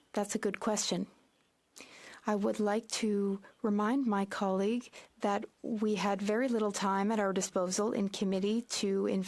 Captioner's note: speaking French